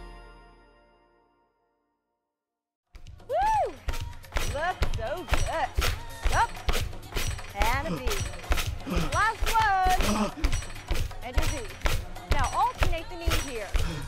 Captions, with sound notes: Woo! Looks so good. Up! (Phasma pants) Now alternate the knee here.